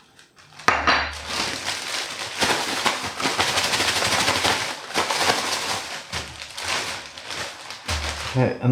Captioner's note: shake, rattle, etc